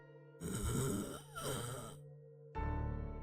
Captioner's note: semi-regretful zombie noises